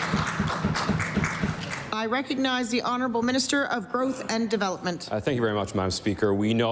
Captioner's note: applause